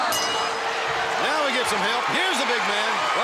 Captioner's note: bell ringing